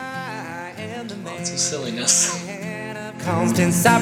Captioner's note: laugh